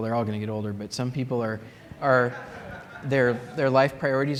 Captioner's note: laughter